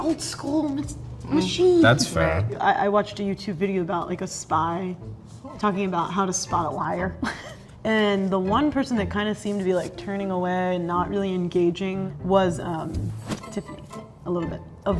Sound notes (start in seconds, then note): 7.3 laughing; 7.9 suspicious music